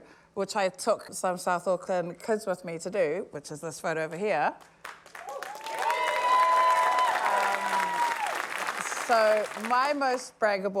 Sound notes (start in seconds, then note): 5.0 cheering, applause